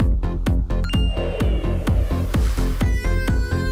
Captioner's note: phone tapping; phone beeping